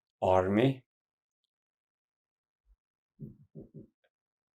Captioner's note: pauses 6 seconds